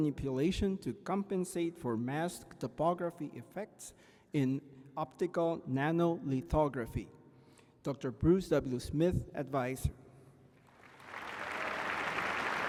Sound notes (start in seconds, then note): 10.6 applause